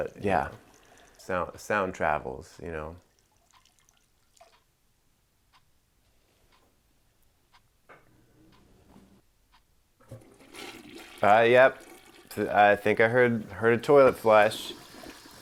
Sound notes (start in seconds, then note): 10.0 toilet flushing